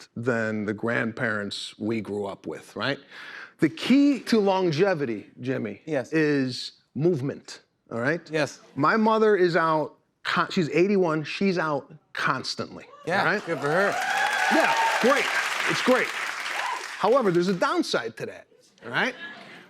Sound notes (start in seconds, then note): 13.0 cheers and applause